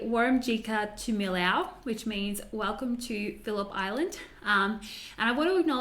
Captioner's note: speaking Bunurong